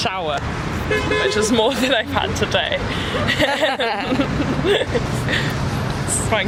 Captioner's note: laugh